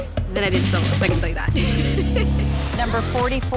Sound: laughs

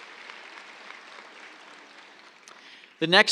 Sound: applause

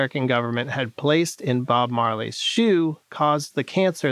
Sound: none

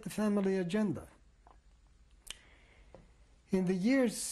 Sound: pauses for 3 seconds

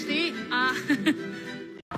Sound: she laughs

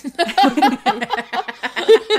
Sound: laughing

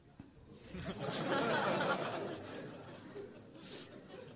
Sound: laughter

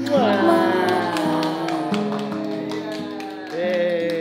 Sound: everyone clapping

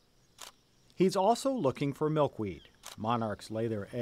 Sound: voiceover

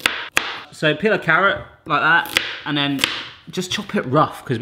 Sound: chopping noise; chopping noise

